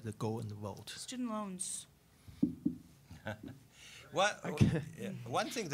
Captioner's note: laughing